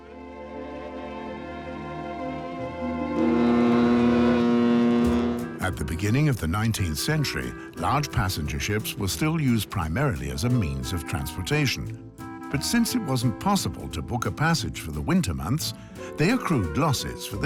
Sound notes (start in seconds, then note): 2.8 steamer horn